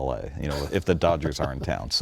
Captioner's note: laughing